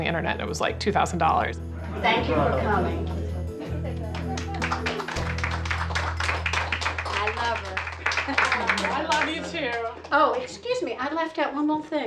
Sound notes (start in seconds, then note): 4.0 applause